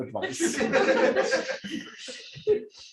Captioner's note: laughter